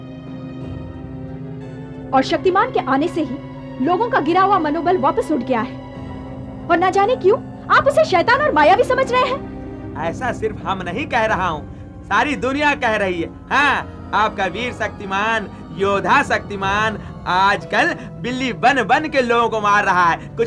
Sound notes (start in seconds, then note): none